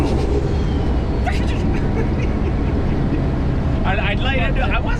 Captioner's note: guy laughing